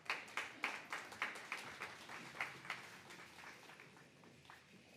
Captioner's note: applause